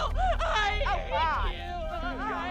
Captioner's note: cries uncontrollably